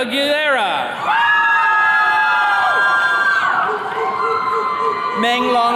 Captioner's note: attendees cheering